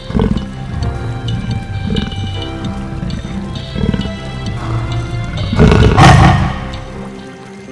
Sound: sound of snarling beast

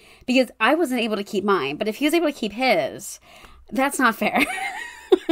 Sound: laughs

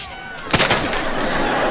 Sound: splattering

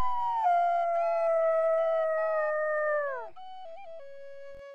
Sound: coyote howls

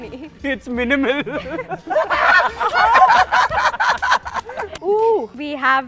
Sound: laughter

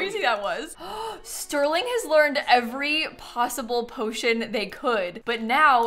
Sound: gasps

